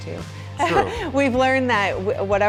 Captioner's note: laughs